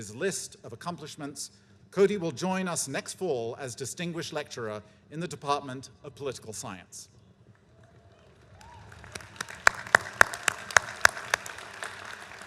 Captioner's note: applause